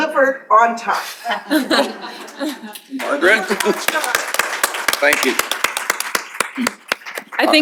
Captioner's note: applause